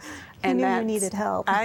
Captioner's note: giggling